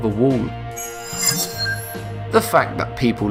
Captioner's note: sharp chiming